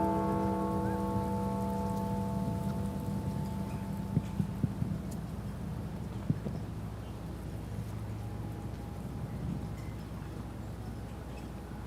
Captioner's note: bells tolling